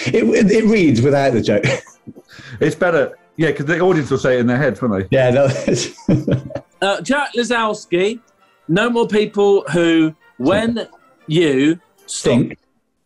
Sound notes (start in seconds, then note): 5.4 laughing